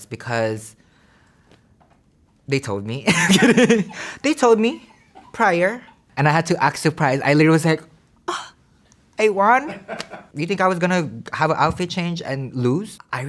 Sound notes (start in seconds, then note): 3.1 laughs; 8.3 gasps; 9.6 staff laughs